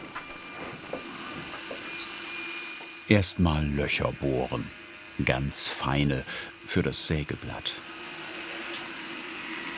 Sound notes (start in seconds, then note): 1.2 high whirring sound